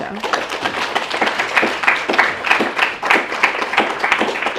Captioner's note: clapping